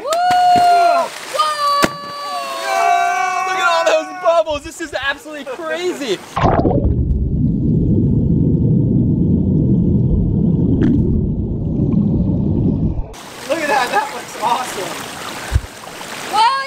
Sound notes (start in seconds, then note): 0.6 splashing; 6.3 gurgling